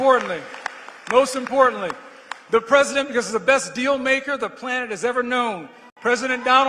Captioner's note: applause